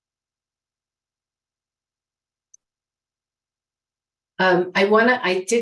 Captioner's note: silence